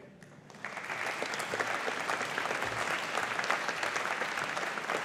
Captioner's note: audience applauding